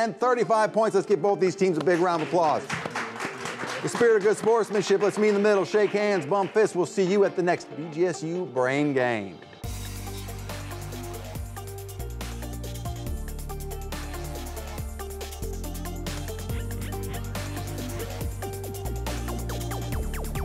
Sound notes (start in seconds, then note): 1.8 audience applauds; 8.5 upbeat electronic music